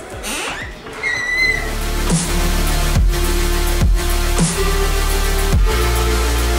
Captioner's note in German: Tür quietscht